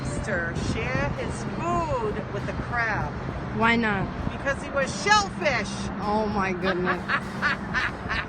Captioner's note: laughter